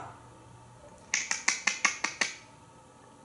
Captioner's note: squirrel sounds